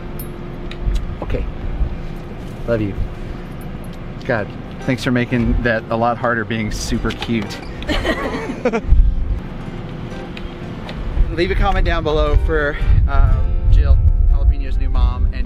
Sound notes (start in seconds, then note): 0.7 kiss smacking